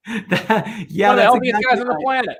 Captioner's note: murmurs